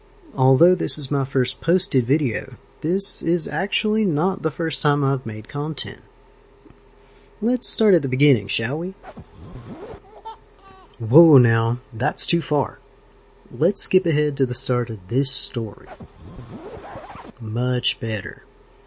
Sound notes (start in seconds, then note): 10.0 baby giggling; 15.8 cassette tape rewinding